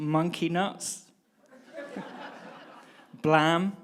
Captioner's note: audience laughing